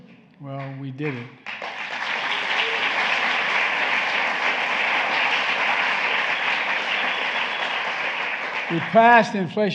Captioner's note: applause